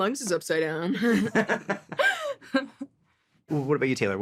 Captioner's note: all laugh